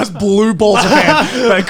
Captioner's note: chuckling